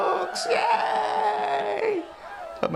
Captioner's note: crowd cheering